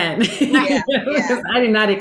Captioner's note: laughing